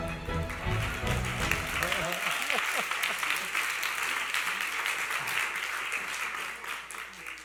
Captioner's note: applause